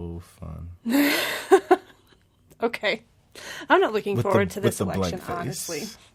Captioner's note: laughs